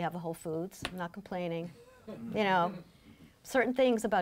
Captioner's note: laughing